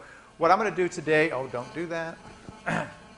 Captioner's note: buzzing